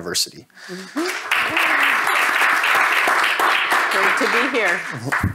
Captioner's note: audience applauding